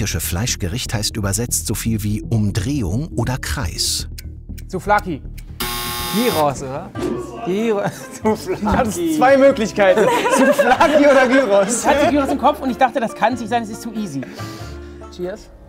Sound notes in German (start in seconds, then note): 9.8 lacht